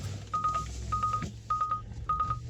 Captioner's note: beeping